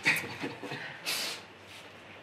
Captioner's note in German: Schmunzeln